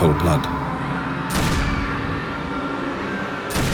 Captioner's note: gun shots, screaming